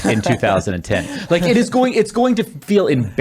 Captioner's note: laughing